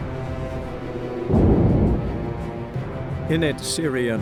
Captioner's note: muffled explosion